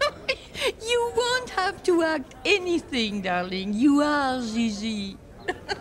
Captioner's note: laughing